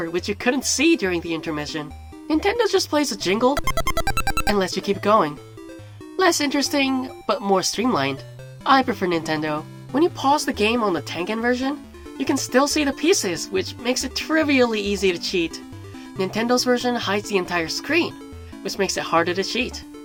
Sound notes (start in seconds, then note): 3.6 sound effect